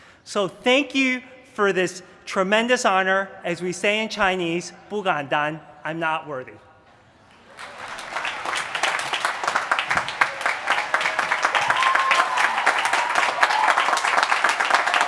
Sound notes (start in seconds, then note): 4.7 speaking mandarin; 7.4 applause